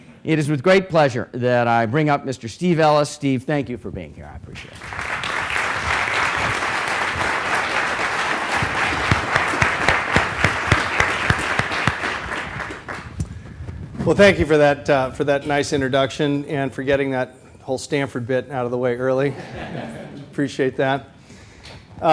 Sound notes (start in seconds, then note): 4.6 applause; 19.2 laughter